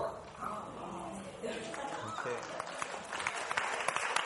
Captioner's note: people mumbling; audience applauding